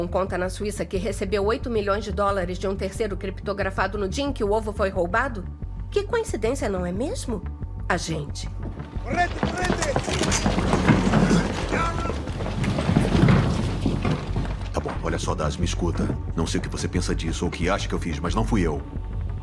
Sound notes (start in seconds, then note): 8.9 officer 1 shouting in Italian; 12.9 officer 2 over radio